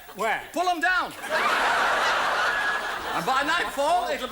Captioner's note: audience laughs